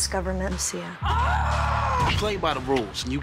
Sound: screaming

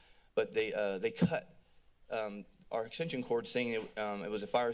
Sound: thud

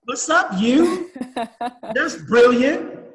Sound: laughing

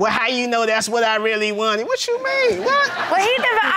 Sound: imitating miss harris

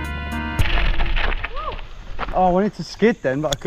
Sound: tires skid against gravel

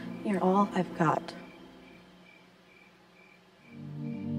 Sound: none

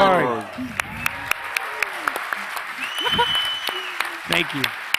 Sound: audience cheering

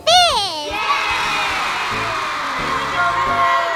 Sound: cheering

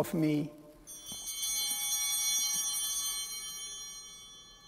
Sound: bell ringing

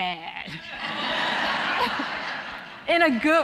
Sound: audience laughing

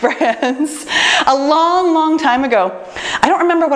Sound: laughs

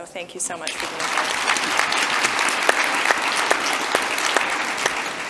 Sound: audience applauds

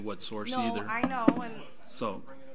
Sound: overlapping chattering

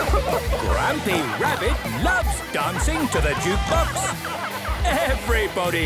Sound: shouting

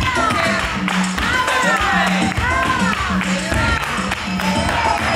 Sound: cheering and chanting

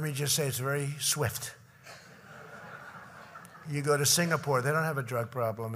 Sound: laughter

